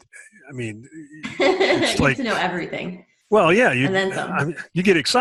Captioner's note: laughs